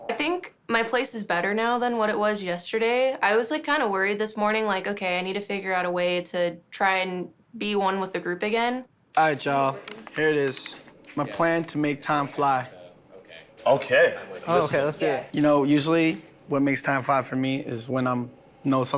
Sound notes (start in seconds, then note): none